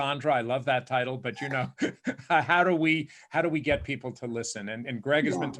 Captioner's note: laughing